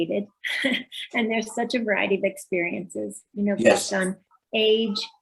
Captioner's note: laughs